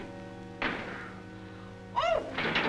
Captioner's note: door closes; rattling cage